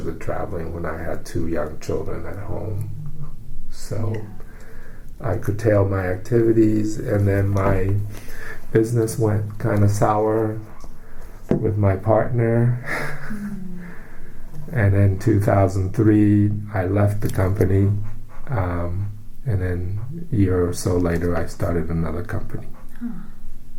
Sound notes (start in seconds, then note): 12.8 laughs